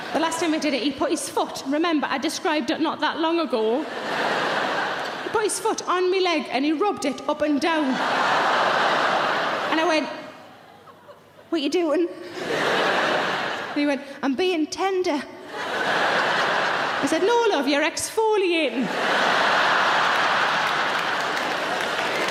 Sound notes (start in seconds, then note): 3.8 audience laughing; 7.8 audience laughing; 15.5 audience laughing; 18.8 audience laughing; 22.0 audience clapping